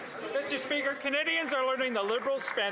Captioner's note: some Applause